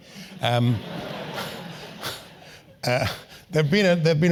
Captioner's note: laugh